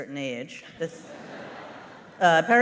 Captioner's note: laughter